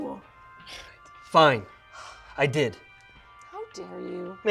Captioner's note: scoffs